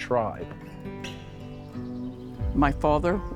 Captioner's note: birds singing